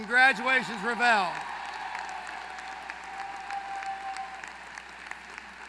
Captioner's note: applause